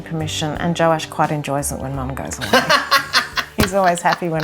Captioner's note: laughter